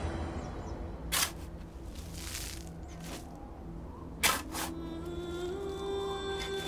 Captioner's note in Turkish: Kürek Sesleri